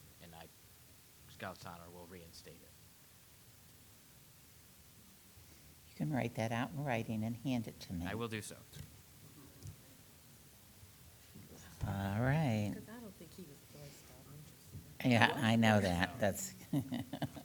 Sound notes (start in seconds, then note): 14.2 speaks softly